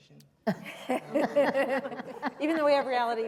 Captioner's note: laughter